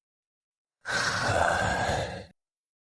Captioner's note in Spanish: Suspiro